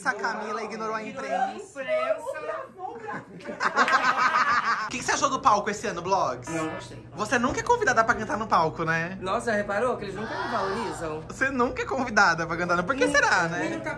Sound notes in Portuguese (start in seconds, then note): 3.0 risos